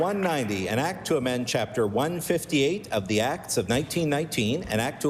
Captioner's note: applause